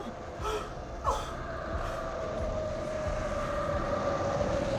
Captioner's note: wind whirling